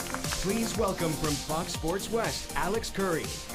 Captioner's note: applauding